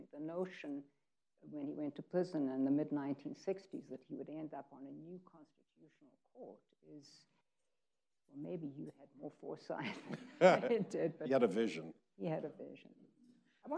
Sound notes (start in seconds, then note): 10.2 laughing